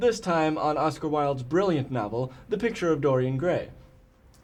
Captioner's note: none